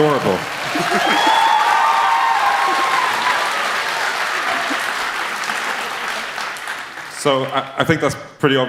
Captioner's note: sneezing; applause